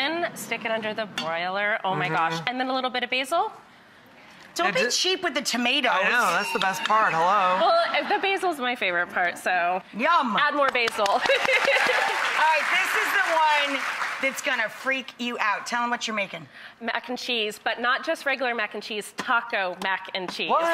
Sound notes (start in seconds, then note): 10.6 audience claps; 11.2 laughs